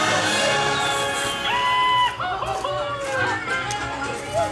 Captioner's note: Goofy’s signature yell